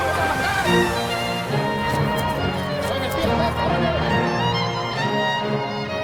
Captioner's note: soldiers yelling